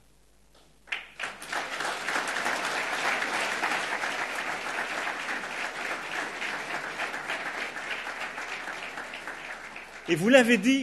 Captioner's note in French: Applaudissements